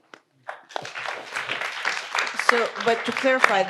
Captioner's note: audience applauds